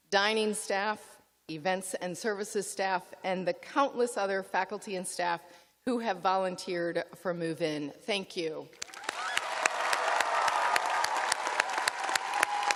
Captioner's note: cheers and applause